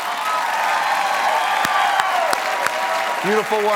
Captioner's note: applause